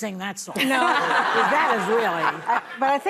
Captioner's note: laughing